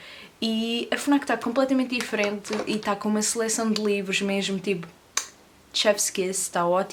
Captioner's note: kiss sound